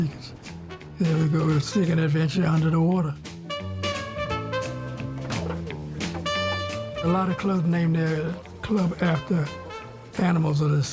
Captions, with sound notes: and we'd go seek an adventure under the water. [car door clattering] A lot of clubs named their club after animals of the sea.